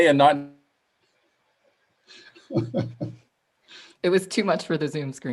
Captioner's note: laughter